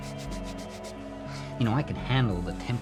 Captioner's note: brushing shoes